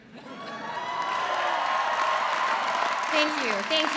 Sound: audience applauds

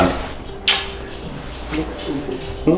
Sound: kissing sound

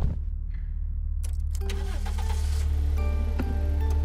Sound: car engine starting

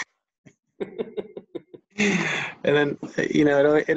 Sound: both laughing

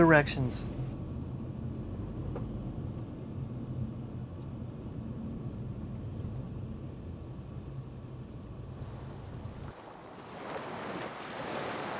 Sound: wind blowing

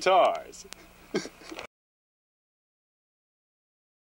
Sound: giggling

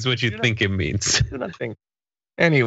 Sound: laugh

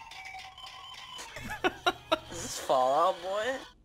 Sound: laughing

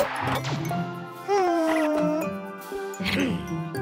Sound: Cookie sighs contentedly

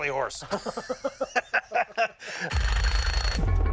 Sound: both laugh

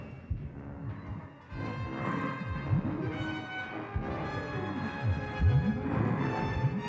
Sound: dramatic music; Donald growling

